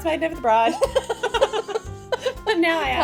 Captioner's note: both laughing